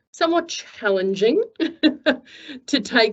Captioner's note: chuckles